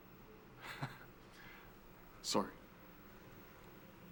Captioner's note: chuckles